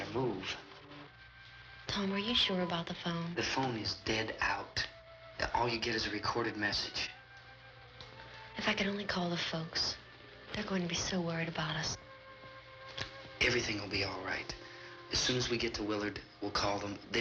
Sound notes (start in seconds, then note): none